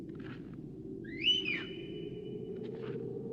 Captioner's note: whistles